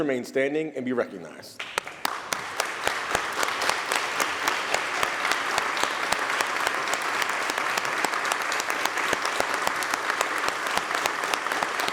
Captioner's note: applause